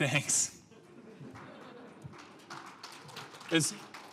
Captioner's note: applauding